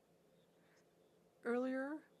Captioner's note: speaking French